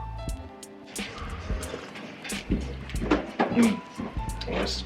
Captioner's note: man sipping